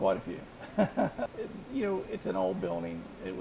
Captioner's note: laughing